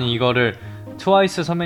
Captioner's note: inhale